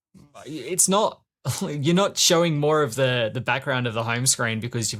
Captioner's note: laughs